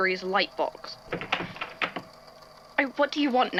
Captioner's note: door opens